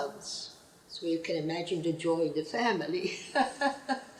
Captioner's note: laughs